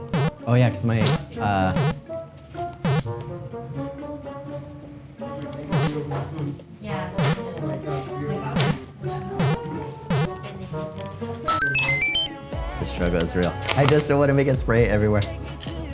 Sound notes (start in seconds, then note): 1.7 Mario block bloops; 11.4 upbeat K-Pop music; 11.5 1-up jingles